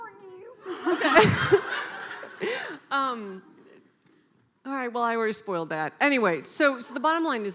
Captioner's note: laughing